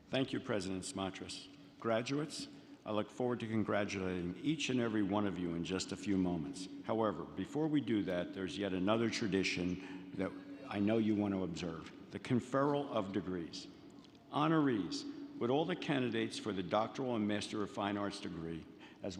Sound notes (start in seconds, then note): none